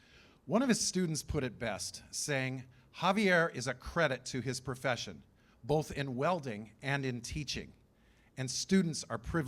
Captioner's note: none